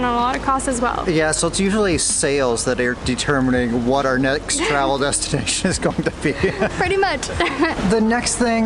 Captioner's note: both laughs